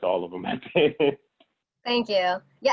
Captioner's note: laughs